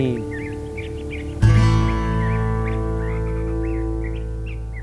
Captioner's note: birds chirping